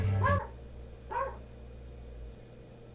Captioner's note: soul dies as dog continues barking